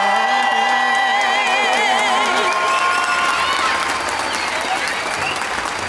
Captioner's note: audience cheering and applauding